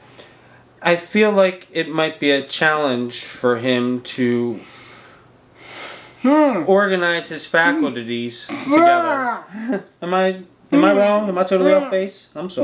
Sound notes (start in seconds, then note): 8.6 screams